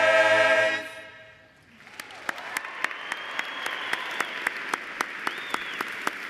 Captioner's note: cheers and applause